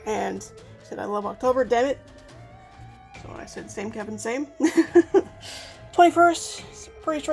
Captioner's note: laughs